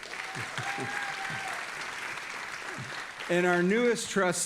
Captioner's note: audience applauding and cheering